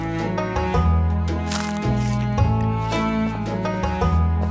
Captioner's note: food crunches